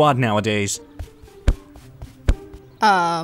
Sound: Fishstick thudding

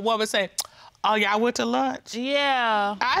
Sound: clicks tongue

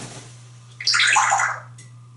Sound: water sound

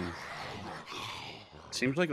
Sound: puppet noises

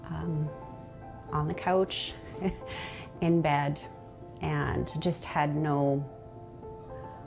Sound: chuckles

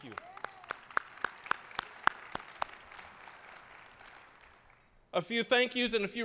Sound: applause

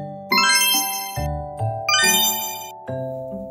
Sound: twinkling

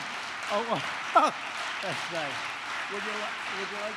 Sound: applause

